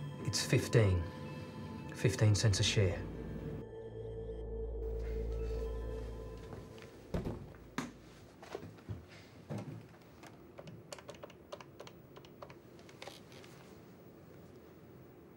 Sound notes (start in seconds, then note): 3.5 dramatic music; 7.4 briefcase clattering; 10.5 phone buttons clicking